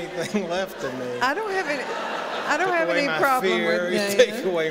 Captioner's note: laughter